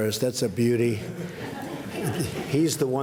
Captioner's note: laughter